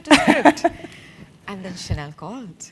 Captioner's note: laugh